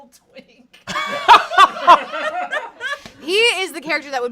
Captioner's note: everyone laughs